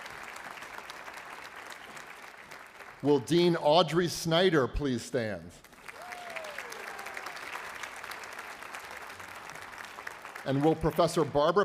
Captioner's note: applause